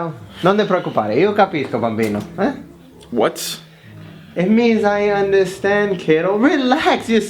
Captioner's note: foriegn language